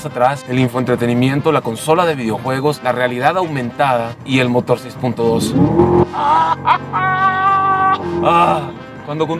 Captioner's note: screams in excitement